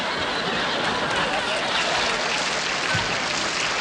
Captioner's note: applause